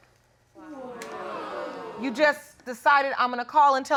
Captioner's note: audience jeers